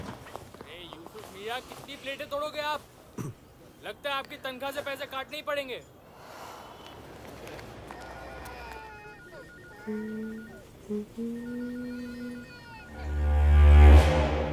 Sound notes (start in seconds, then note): 7.8 Phone ringing; 9.7 Humming